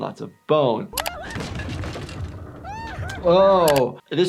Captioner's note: Toothy shrieking